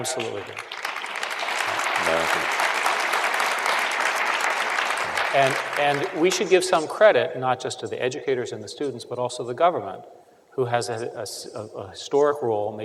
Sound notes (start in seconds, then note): 0.0 applause